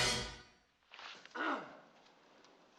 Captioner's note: clears throat